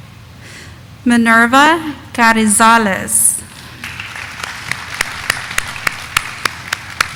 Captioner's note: audience applauding